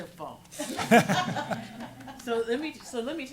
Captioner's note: laughing